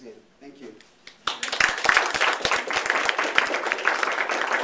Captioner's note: applause